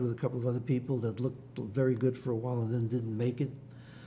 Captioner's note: none